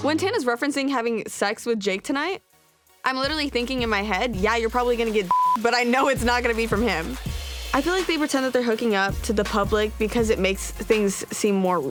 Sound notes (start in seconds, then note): 5.2 beep